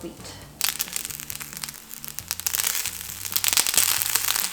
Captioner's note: wheat popping